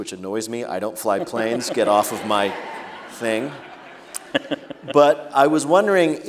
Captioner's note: laughter